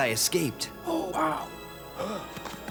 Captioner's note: gasps